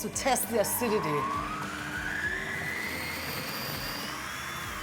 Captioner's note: food processor whirring